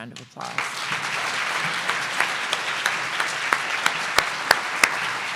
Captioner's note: audience applause